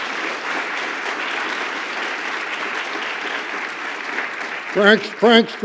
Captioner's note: applause